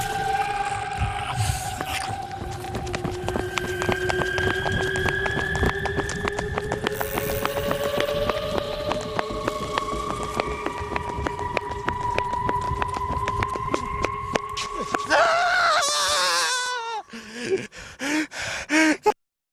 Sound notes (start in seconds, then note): 0.0 eerie sounds; 0.2 snarling and growling; 1.8 footsteps hitting pavement; 14.6 screaming and panting